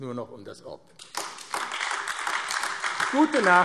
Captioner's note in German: Beifall AfD